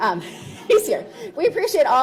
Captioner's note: laughs